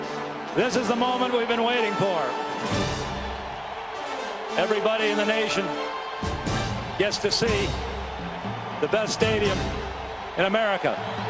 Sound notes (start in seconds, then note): 2.5 crowd cheering; 11.0 cheers and applause